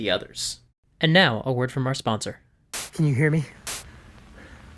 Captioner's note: static crackles